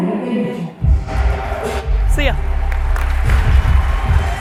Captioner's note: applause